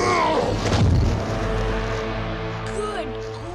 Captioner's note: giant grunts; log booms